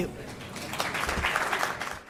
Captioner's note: applause